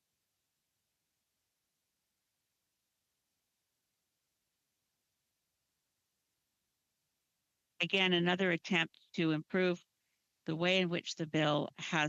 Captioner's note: speaking French